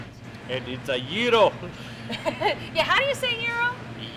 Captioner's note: laugh